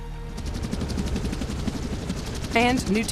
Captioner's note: helicopter rotors beating